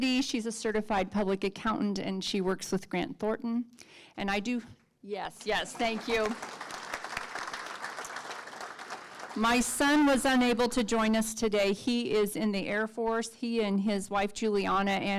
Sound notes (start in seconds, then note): 5.4 audience clapping